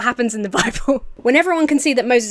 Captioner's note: Emma laughs